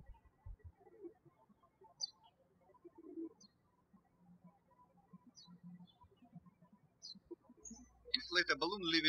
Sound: birds chirping

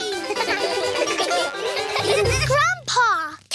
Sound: all giggle

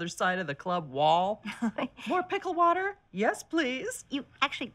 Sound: chuckles

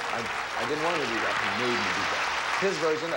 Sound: audience applauding

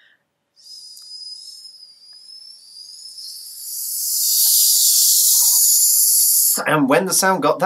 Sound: make hissing sound

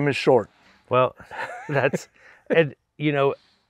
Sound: chuckles

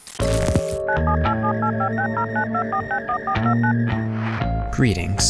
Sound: phone buttons dialing

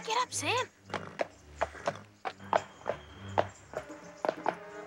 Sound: horse hooves clopping

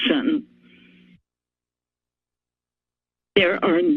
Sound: pause

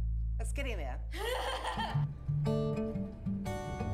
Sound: laughs

